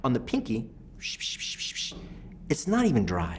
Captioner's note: makes squirt sounds; makes rubbing sounds